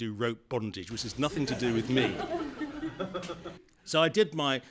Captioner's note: laughter